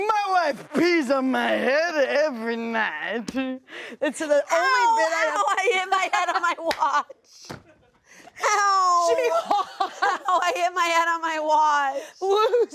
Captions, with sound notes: My wife pees on my head every night. It's the only bit... - Ow! Ow! I hit my head on my watch. (laughs) Ow! - She paused. - I hit my head on my watch.